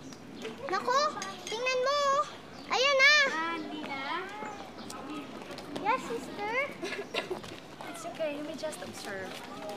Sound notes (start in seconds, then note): 6.8 coughs